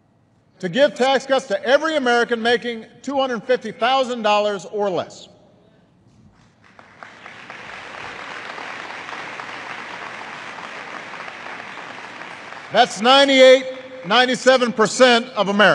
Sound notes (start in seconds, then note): 6.3 applause